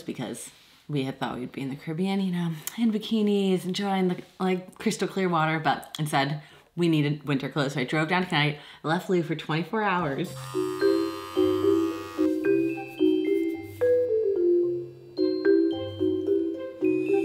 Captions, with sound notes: because we had thought we'd be in the Caribbean, you know, in bikinis, enjoying the like crystal clear water, but instead we needed winter clothes. So I drove down tonight, I left Lou for 24 hours. (shaver buzzing) (light music)